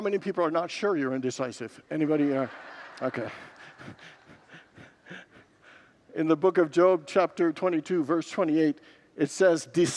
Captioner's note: congregants laugh